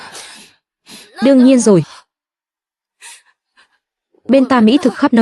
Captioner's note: tiếng cười